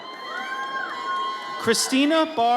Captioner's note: audience cheers